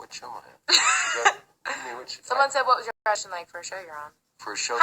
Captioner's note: laughs